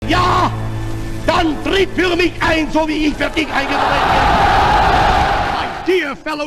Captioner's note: Hitler speaking in German. Crowd cheers